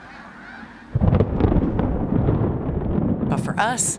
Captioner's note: thunder roaring